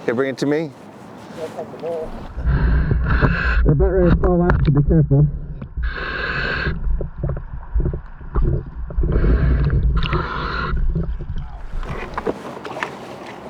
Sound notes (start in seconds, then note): 2.2 breathing heavily